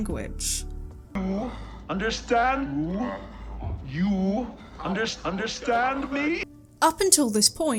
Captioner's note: distorted Psychlo speech